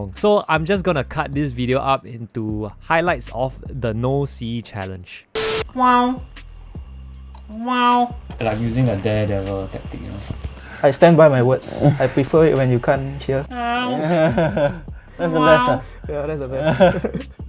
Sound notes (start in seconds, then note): 5.7 echolocation sound